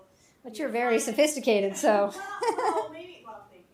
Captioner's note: chuckles